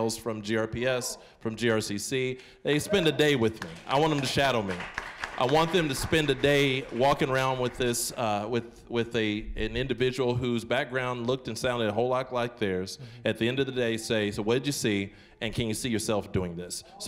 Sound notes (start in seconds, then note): 3.4 applause